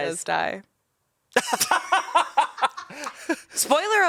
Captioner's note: laughs